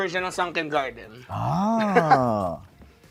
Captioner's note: jugs chuckling